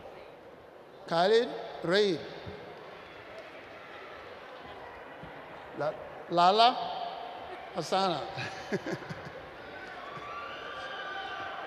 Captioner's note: laughs